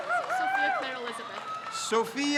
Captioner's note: crowd cheers